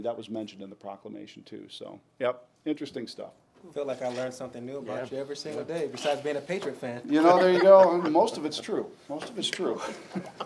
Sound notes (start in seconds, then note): 7.2 laughs